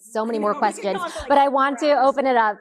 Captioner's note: both indistinctly chattering